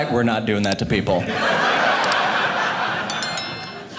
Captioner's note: audience laughing